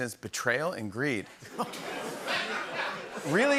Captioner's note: laughter